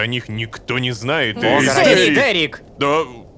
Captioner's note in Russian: хором